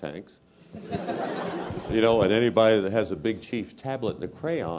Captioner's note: laugh